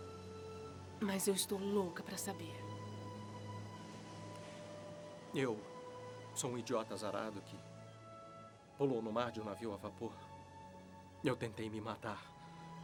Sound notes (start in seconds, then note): none